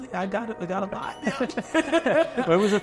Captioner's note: laughs